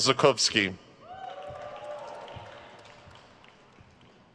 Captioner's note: crowd cheers